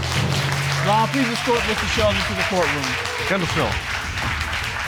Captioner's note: audience applaud